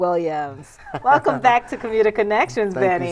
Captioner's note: laughs